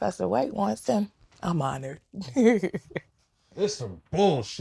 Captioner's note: laughing